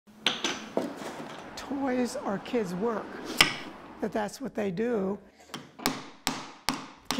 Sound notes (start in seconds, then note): 0.2 tools clattering